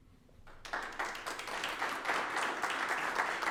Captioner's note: applause